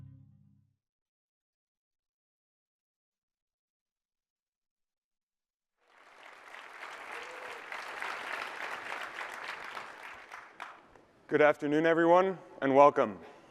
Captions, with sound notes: [ Applause ] Good afternoon, everyone, and welcome.